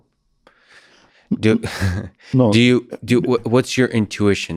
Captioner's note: chuckles